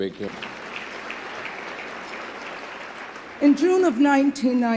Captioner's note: crowd clapping